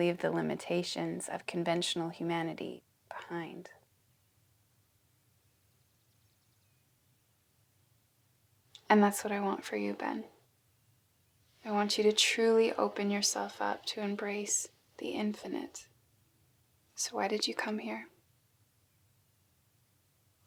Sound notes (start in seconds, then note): 5.5 birds chirping